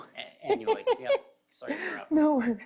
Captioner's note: laughing